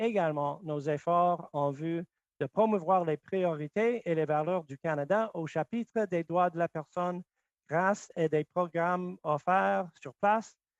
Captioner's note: speaking French